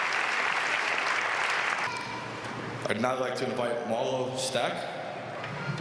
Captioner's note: applause